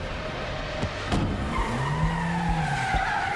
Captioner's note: tires squeal